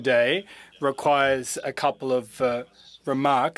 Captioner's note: speaking French